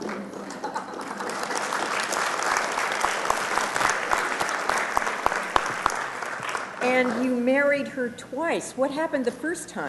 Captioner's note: ahhh and applause